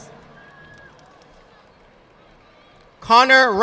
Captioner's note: audience applauding